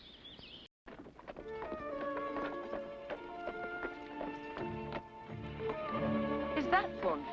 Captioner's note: hooves trotting; ominous music